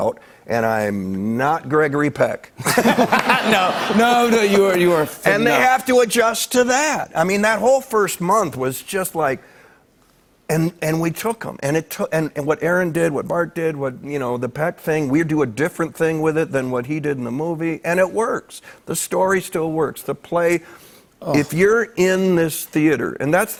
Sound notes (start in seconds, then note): 2.6 laughter